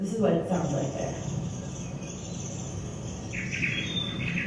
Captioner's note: birds chirping